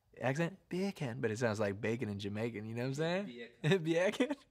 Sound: in normal accent

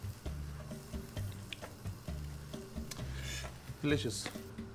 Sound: sauce frying

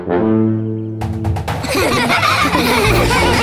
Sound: laughing

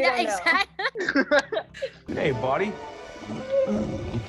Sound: laughs

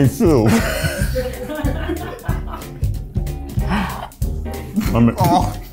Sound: laughing

